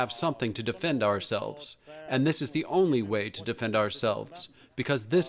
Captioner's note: through translator